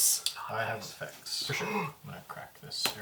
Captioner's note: gasps